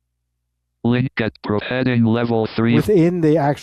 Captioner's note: automated Voice